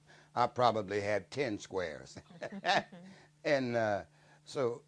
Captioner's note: laughs